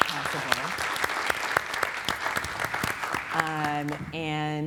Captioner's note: audience clapping